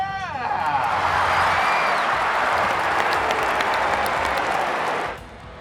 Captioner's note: cheering, clapping